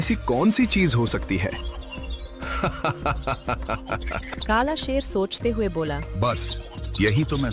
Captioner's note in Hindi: हंसी